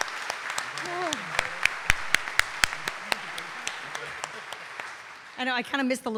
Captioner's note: audience applauding